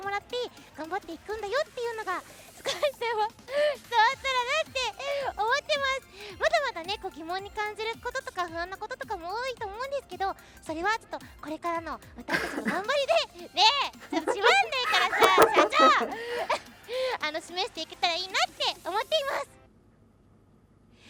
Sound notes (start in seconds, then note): 12.3 coughing